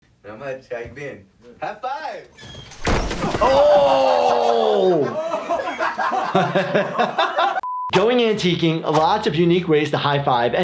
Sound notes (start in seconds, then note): 5.0 Jackass crew laughing; 6.9 doctor laughs